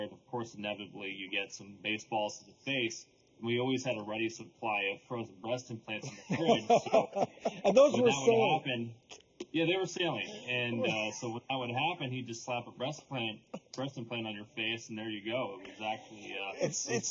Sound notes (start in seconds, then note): 6.0 laughing together